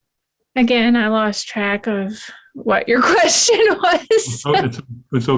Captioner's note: laughs